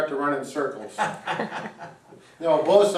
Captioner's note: laughs